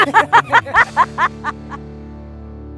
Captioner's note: laughing